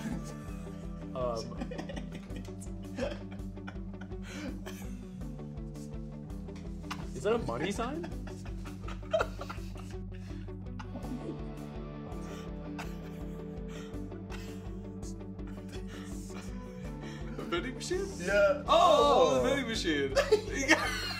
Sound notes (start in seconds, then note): 1.4 laughing; 7.4 giggling; 20.1 giggling